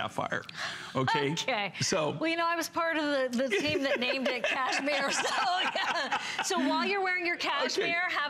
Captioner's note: laughter